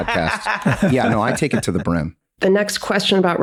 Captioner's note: Glenn cackles